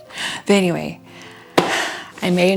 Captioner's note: sigh